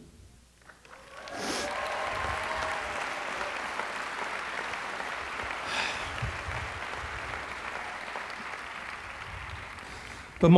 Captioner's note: applause